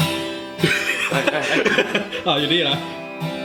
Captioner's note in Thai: หัวเราะ